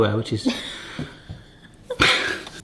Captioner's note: both laughing